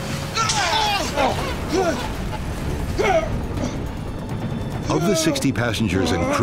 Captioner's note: all shouting; water splashing